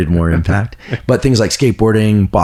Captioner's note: laughs